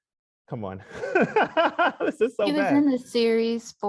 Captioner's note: laughs